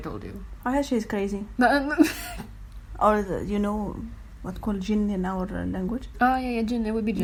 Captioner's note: thrown off laughter